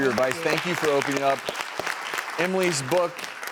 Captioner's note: audience applauds